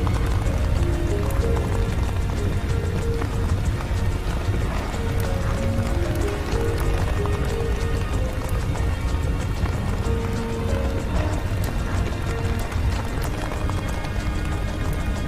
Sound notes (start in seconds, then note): 0.7 fire crackling; 9.2 solemn music